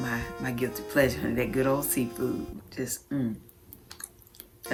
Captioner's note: chewing